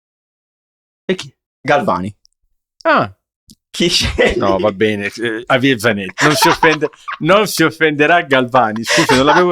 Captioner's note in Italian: risate